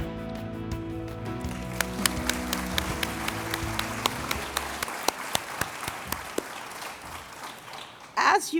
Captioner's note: applause